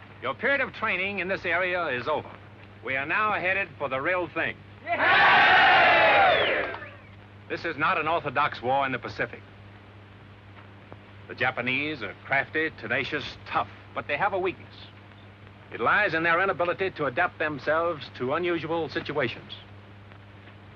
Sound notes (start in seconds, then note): 4.8 cheers